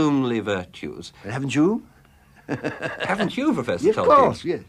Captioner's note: laughs